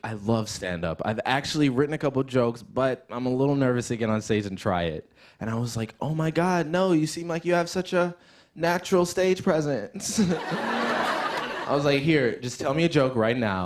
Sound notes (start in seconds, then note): 10.0 laughter